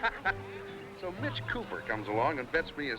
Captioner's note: men laughing